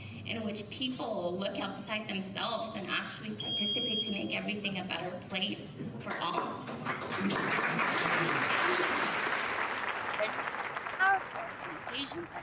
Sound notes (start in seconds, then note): 6.1 audience applauds